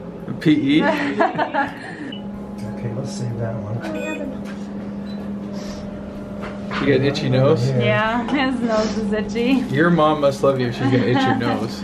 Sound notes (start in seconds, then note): 0.8 laughing; 4.0 beeping